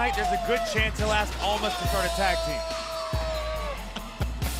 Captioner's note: laughs